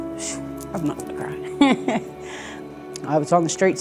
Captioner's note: chuckles